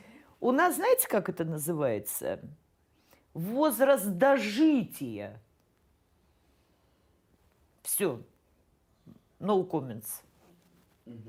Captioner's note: speaking russian